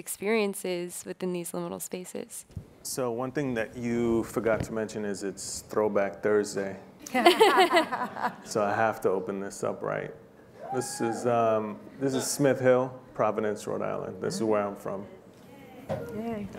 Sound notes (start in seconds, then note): 7.1 laughing; 10.6 cheering